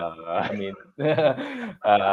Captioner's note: laughter